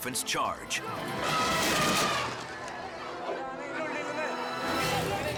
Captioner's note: attacking elephant trumpets